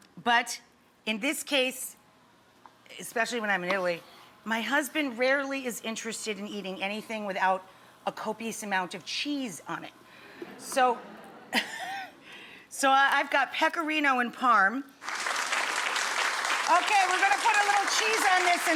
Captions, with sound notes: But, in this case, especially when I'm in Italy, my husband rarely is interested in eating anything without a copious amount of cheese on it. (audience laughing) So I've got pecorino and Parm. (audience applauding) Okay, we're gonna put a little cheese on this